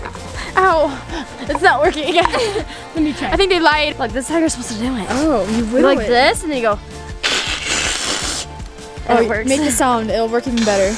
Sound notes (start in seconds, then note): 0.0 blows; 7.1 vocalizes